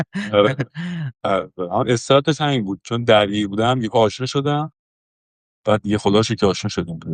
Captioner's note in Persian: خنده